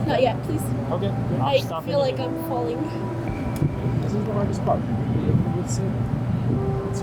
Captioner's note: speaking softly; speaking softly